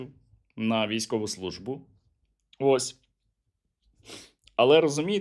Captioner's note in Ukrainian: сопіння